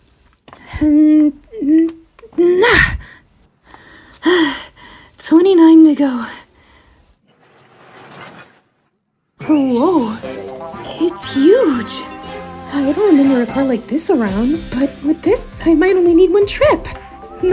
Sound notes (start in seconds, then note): 3.2 Amy exhales